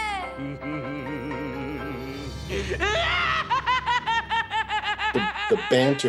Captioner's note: Joker laughs maniacally